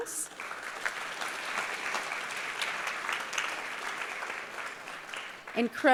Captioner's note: applause